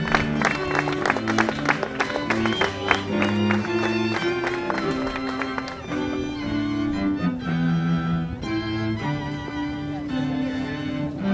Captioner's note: applause